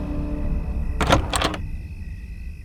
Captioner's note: doors rattling